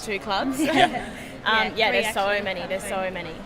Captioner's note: both girls laugh